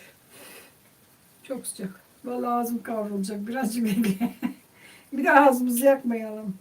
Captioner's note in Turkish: kahkaha